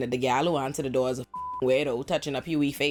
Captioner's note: beep